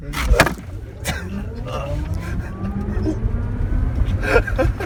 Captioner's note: laughing